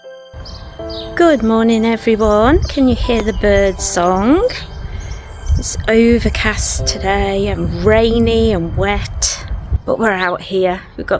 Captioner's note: birdsong